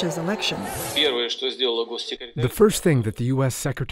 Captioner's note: speaking russian